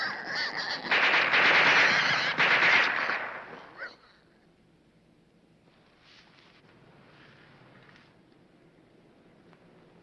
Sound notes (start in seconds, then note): 0.8 gun firing